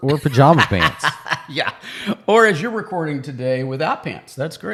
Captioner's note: laughing